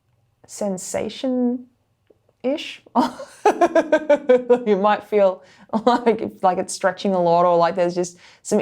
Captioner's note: laughs